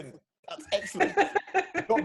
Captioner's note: laughing